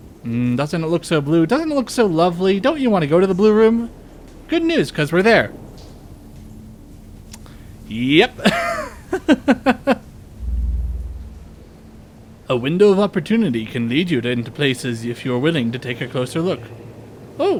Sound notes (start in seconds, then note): 8.4 laughter